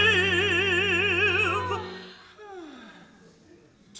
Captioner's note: Phoebe sighs; unseen man sighs